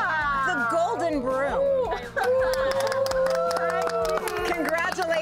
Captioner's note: group cheers and applauds